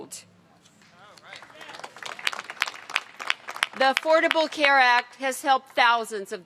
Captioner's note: applause